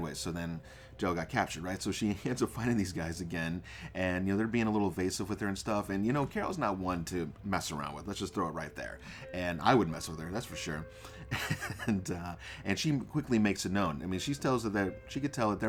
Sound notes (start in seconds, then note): 11.2 laugh